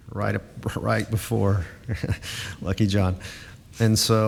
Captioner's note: chuckles